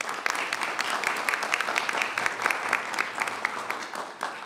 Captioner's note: applause